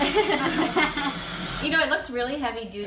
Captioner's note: laughs